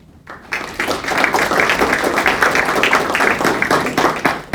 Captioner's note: audience applauding